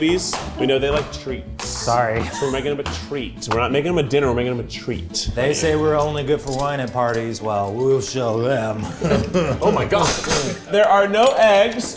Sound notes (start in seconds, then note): 2.1 flippers flapping; 8.7 laughs